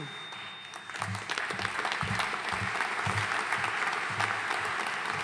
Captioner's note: audience applauding